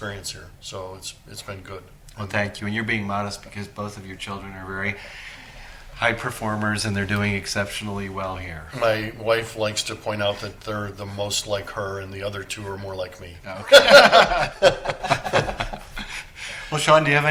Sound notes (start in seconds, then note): 13.6 laughter